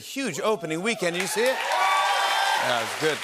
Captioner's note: cheers and applause